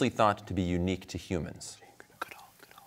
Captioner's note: whispers